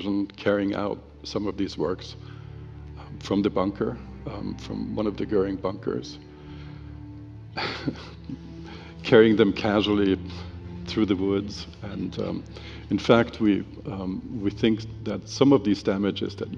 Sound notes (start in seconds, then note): 7.6 laughs